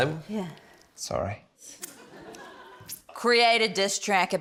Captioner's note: laughter